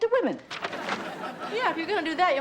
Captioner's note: audience laughs